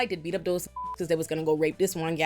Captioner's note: beep